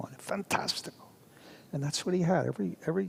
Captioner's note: speaks foreign language